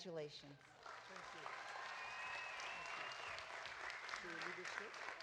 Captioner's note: audience applauding